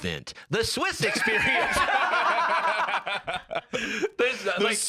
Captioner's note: all laughing